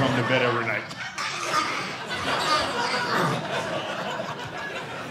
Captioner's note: audience laughing